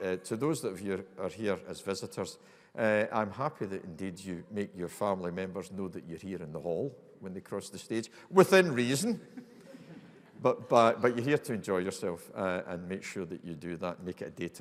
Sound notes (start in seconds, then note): 9.3 audience laughing